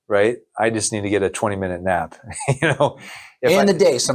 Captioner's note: laughs